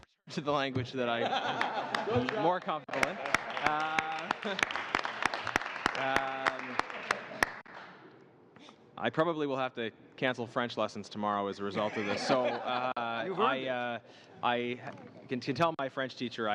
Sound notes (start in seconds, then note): 6.9 laughter; 7.7 applause